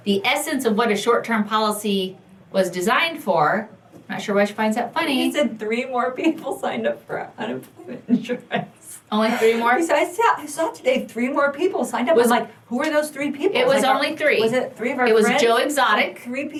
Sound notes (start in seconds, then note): 9.2 laughs